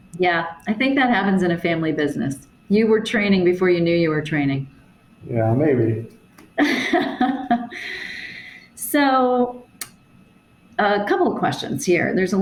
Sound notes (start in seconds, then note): 6.6 chuckles